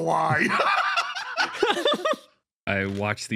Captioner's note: laughs